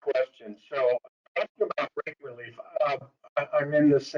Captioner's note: audio breaks